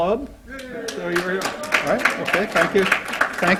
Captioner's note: applause